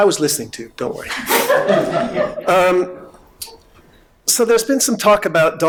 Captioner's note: audience laughing